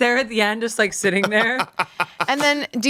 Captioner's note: Bob laughs